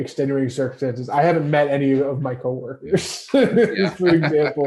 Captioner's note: laughs